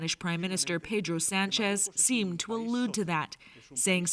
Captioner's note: speaking Foreign Language